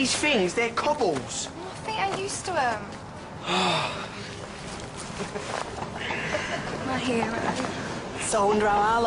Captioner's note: sighs